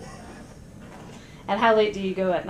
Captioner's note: laughter